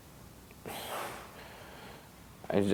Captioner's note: sighs